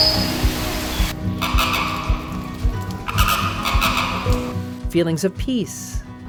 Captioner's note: birds chirping; flamingo growling